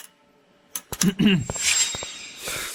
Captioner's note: cough